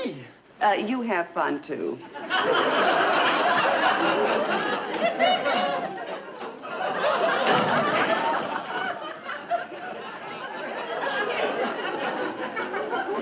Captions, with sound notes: - You have fun, too. (audience laughing) (door clicking shut) (audience chuckling)